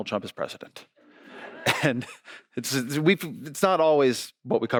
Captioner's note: audience laughing